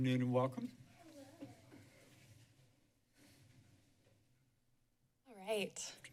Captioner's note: silence